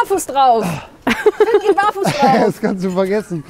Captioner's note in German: Gelächter